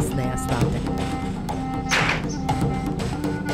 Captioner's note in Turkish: Kapı kapanma sesi